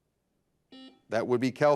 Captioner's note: buzzer buzzes